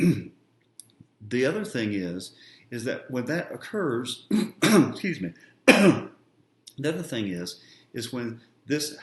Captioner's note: coughs